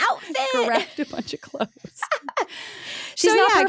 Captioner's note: laughs